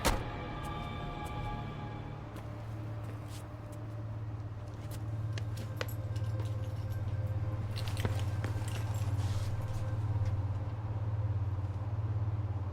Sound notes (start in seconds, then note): 0.0 door shuts; 8.4 footstep taps